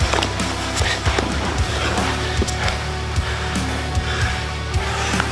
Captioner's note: both breathing heavily